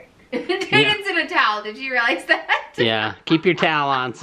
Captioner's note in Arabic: يضحك